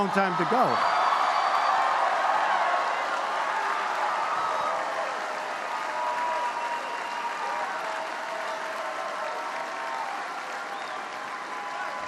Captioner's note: applause